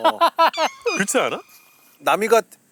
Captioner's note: laughing